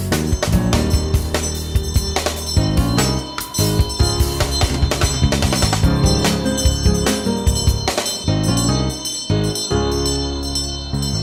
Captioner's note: bell ringing